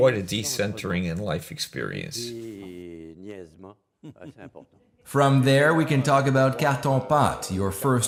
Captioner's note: laughs